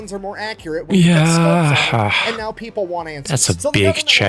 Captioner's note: sigh